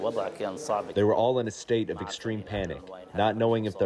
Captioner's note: through translator